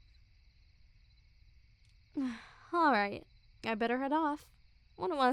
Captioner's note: soft grunt